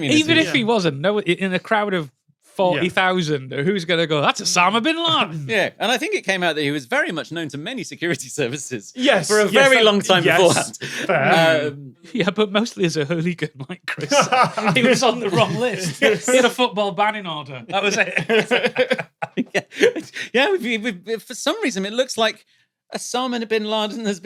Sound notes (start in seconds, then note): 14.0 others laughing; 17.7 giggle